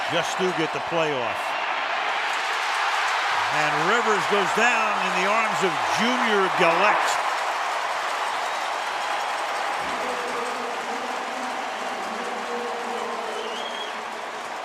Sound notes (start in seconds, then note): 7.5 crowd cheering; 10.6 announcer on pa